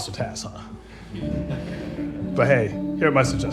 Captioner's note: audience chuckles